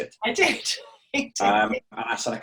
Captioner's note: laughs